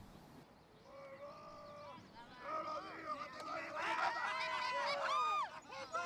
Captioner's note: speaking in foreign language